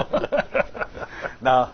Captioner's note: laughing